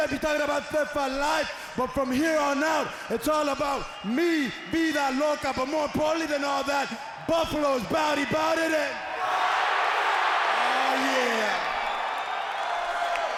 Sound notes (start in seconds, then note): 9.2 crowd screaming